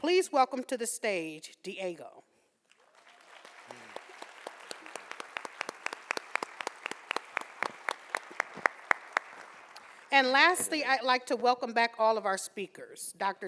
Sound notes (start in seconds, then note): 2.7 audience applauding